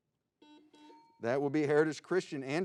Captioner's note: buzzing